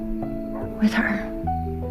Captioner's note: voiceover